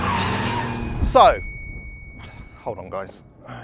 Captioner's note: phone pings